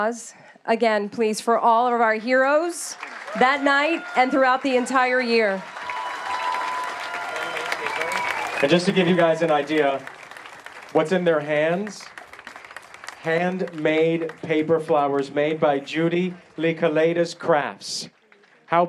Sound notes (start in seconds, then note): 13.8 applause